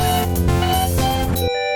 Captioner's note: beeping